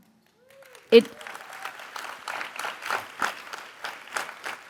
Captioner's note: audience applauds